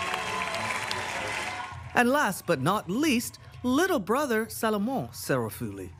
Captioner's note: cheering and applause